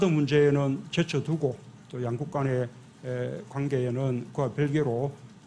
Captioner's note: Korean